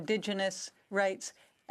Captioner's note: speaking French